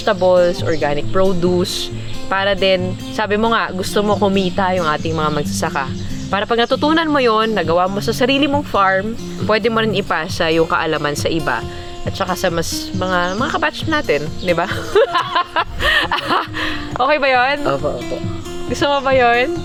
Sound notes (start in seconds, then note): 14.6 laughs